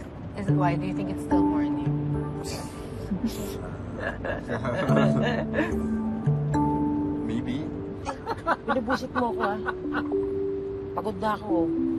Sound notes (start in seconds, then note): 3.1 both chuckle; 8.2 laughing